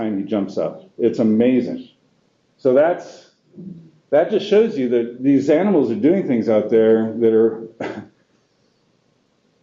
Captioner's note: exhale